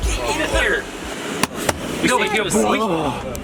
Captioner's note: slaps seat